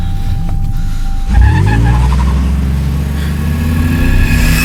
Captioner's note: car revving up